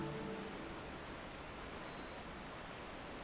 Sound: birds calling

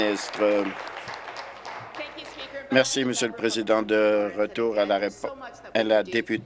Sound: applause

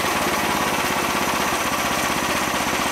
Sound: engine idles Down

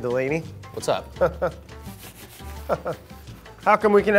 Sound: Brad chuckles

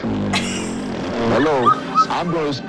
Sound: farting; tittering

